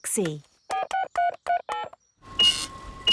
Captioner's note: dialing; cash register beeping